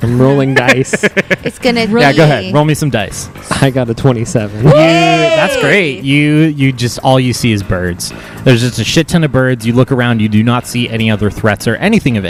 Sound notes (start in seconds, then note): 2.0 laughs